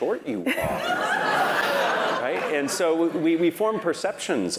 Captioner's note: laugh